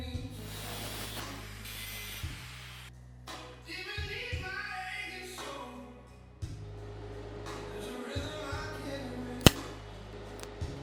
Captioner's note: TIG welding sparks